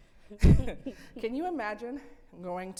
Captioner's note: laughing